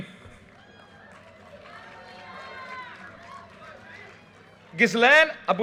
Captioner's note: audience cheers and applause